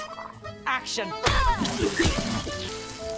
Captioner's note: june grunts; flesh squishing; blood spraying; bucky retching